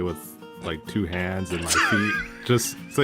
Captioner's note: wheeze-laughs